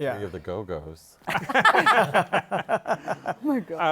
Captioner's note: laughter